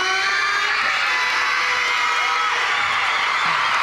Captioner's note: crowd cheers